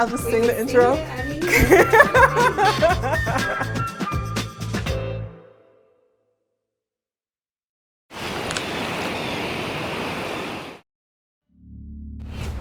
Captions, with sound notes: Can I just sing the intro. (laughing.. music fades)